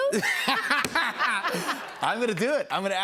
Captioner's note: laughter